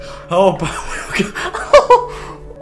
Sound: laughs

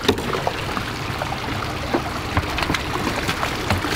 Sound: water rushes

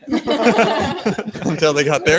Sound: all laugh

